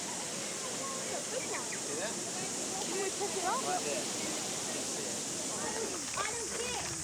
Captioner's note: cicadas